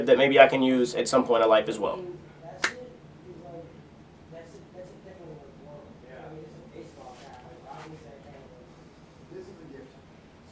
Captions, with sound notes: that maybe I can use at some point of life as well. (indistinct conversation)